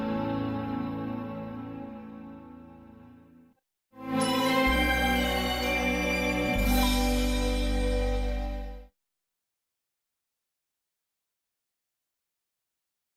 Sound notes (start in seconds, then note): 4.1 anticipating music playing; 9.3 silence